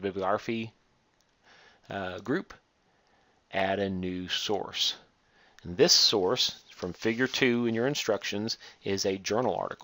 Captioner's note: click